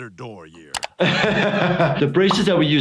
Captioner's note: laughs